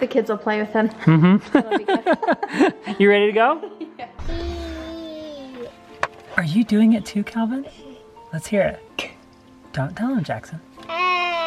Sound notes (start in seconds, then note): 1.0 laughing